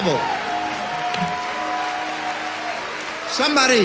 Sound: crowd cheers and applauds

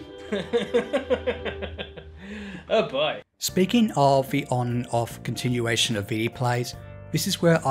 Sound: laughs and says: Oh boy…

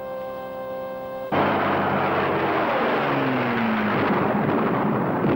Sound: plane roaring

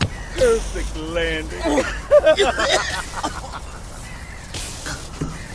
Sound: laugh

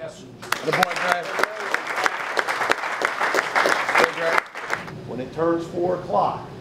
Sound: applause

